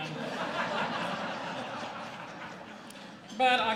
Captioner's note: laughter